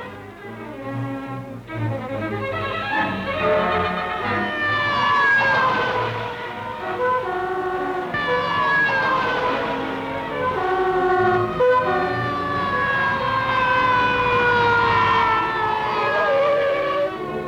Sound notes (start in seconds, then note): 0.2 tense dramatic music; 4.7 sirens